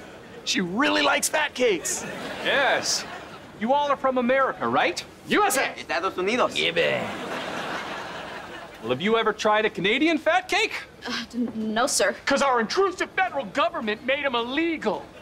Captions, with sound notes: She really likes Fat Cakes. Yes. You all are from America, right? - USA. - [speaking foreign language] Gibby. Well, have you ever tried a Canadian Fat Cake? No, sir. Cause our intrusive federal government made them illegal.